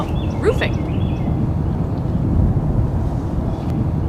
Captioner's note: sound of bird chirping